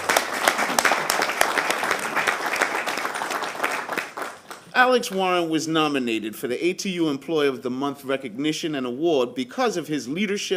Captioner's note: applause